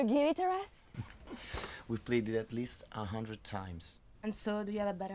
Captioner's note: laughs